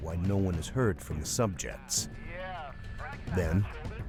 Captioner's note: voiceover